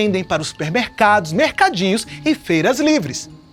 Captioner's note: none